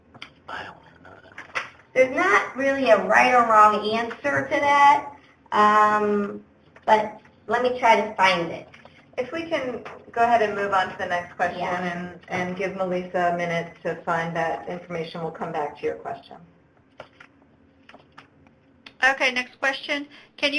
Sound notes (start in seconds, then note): 0.8 whispers